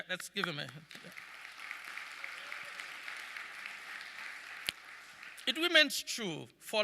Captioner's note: audience clapping